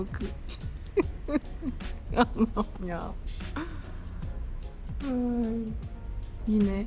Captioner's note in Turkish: kahkaha